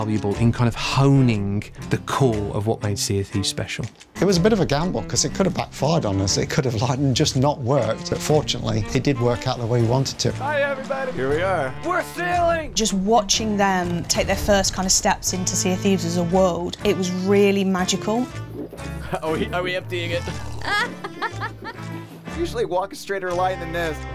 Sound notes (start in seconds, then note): 20.4 laughter